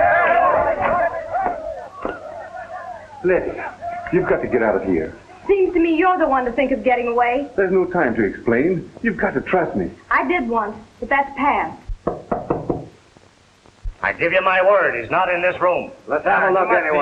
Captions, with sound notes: Letty, you've got to get out of here. Seems to me you're the one to think of getting away. There's no time to explain, you've got to trust me. I did once, but that's past. (knocking) I give you my word, he's not in this room.